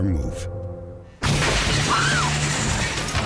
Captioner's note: crash